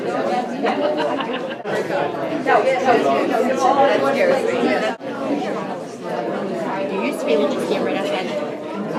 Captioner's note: crowd murmering